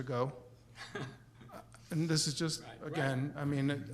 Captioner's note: chuckles